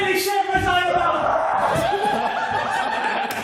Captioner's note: screams of horror or arousal, one of the two